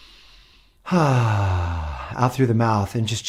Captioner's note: exhales